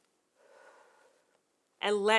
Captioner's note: exhaling softly